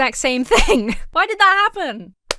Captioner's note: laughs